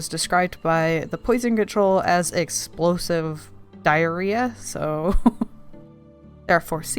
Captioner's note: laughs